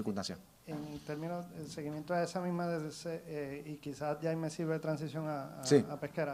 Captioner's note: reporter speaks in foreign language